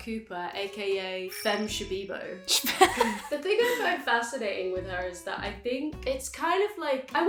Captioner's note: both laugh